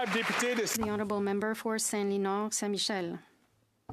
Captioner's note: applause